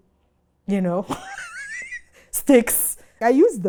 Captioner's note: laughs